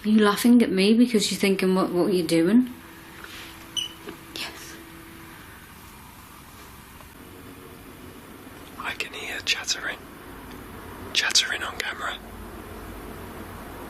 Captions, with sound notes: You're laughing at me because you think I'm mocking what you're doing? (beep) Yes. - I can hear jets are in. Jets are in on camera.